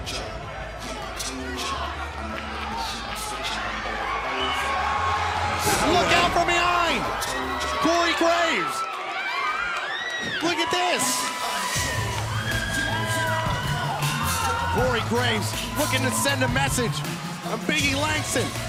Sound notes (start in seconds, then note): 0.0 crowd chatter; 8.9 crowd cheering